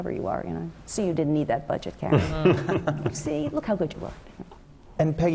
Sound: laugh

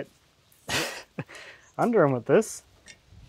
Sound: laughs

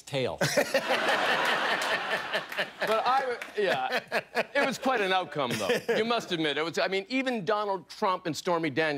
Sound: laughter

